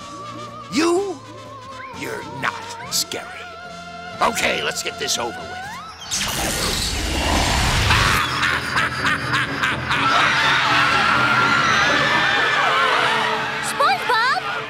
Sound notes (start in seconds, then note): 7.6 laughing; 9.9 screaming